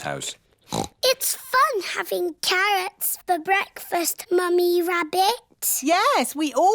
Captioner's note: snorts